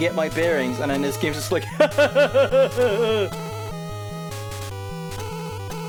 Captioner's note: evil laugh